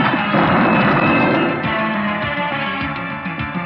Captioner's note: exploding; tense music